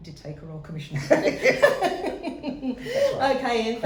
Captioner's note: laughs